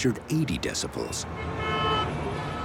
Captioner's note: horns honking